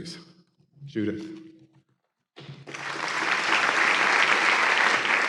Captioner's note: applause